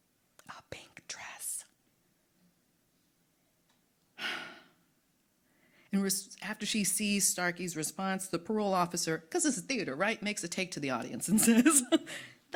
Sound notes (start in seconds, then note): 4.2 sighing